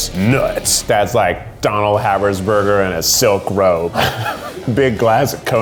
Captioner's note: laughs